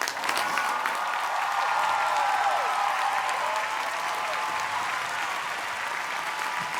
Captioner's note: cheers and applause